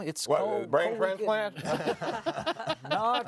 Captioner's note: panelists laughing